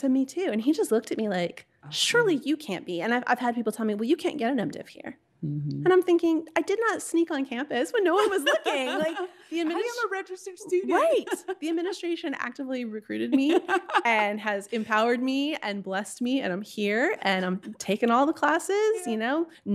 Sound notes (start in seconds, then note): 8.1 laughing; 13.4 laughing